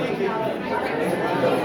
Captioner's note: crowd chattering